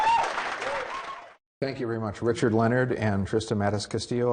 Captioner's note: applauding